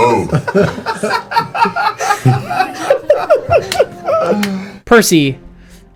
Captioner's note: all laugh